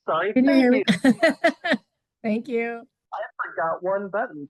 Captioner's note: laughs